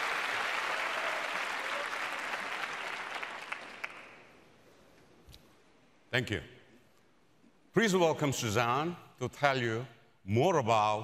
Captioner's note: applause